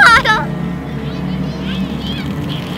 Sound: laugh

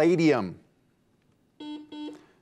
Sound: buzzer beeps

